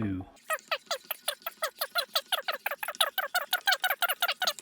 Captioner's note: high speed counting